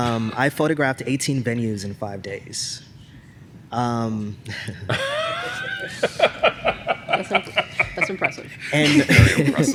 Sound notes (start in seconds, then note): 4.5 laughter